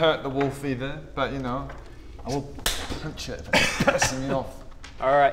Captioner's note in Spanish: smack